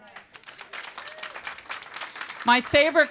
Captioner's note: applause